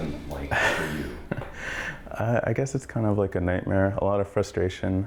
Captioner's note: laughs